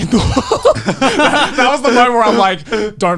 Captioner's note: men laugh